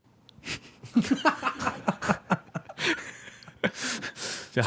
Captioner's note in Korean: 웃음